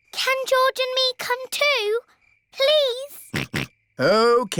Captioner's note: snorts